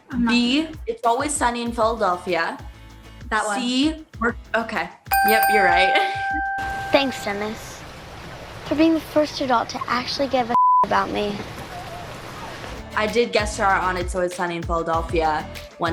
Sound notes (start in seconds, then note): 5.1 dinging; 10.5 beep